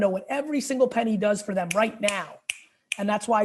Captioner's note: snaps fingers